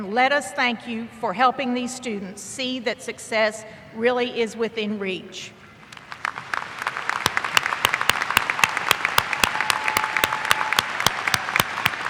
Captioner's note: applause